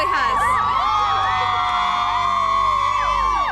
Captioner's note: cheering